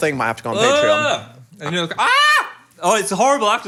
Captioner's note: groans; screams